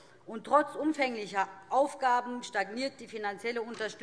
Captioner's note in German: none